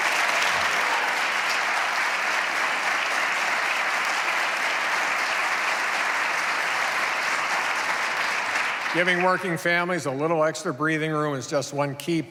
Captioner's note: applause